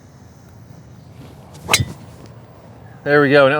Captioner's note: golf club striking golf ball